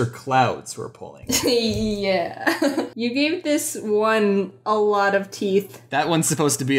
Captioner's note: laughs